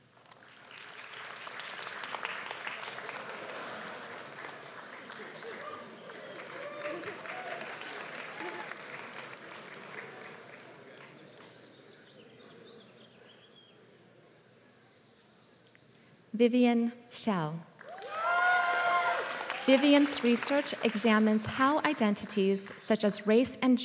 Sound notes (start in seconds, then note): 0.2 applause; 17.8 applause